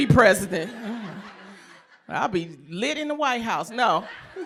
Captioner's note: laughter